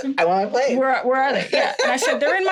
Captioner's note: laughing